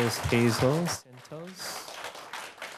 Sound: cheers and applause

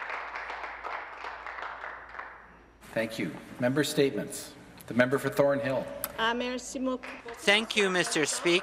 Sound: some Applause

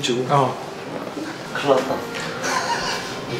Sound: laughs

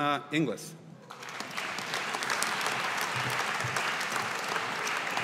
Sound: audience applauding

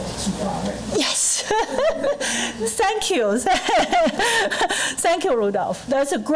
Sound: laughing

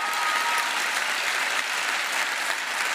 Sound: applause

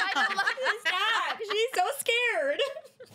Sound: girls laughing

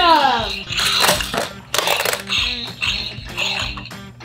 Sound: dinosaur sound

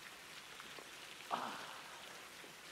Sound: groaning

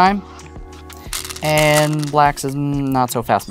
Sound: stones rattling

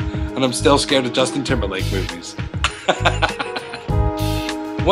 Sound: laughs

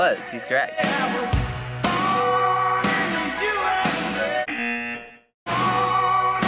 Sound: buzzer

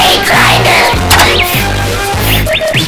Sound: click

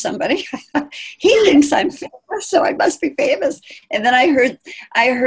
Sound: laughing

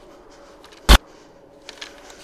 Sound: sudden static

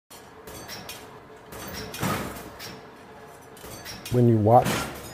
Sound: metal clanging

